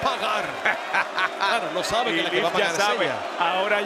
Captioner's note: laugh